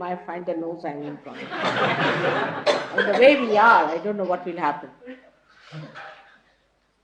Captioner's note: laughter